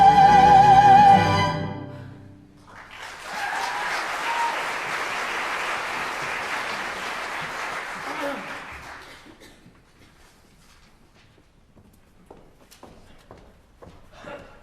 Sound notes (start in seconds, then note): 2.6 applause